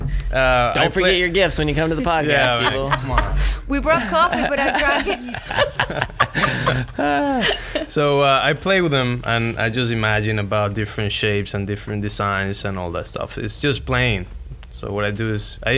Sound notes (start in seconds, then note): 2.2 laughs